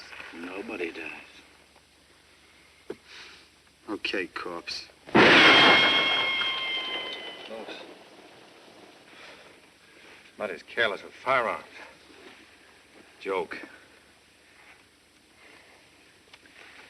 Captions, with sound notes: Nobody dies. OK, corps. [GUNSHOT] Close. Somebody's careless with firearms. Joke.